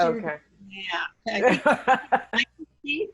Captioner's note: laughing